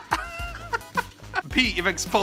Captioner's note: laughs